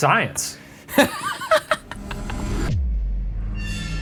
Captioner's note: laughing; dramatic music